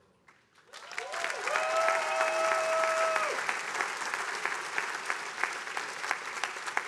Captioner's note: attendees applauding